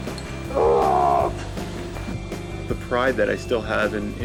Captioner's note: bellowing